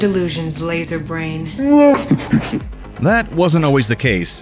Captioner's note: Chewbaca laughs